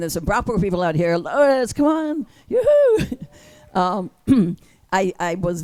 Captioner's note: people cheer